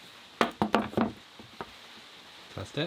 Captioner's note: objects clatter